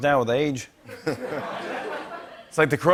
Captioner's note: laughter